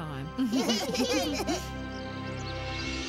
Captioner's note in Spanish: risas